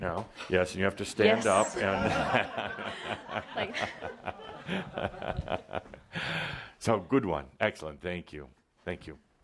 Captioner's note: laughter and Adamus is chuckling